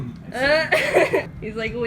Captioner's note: lols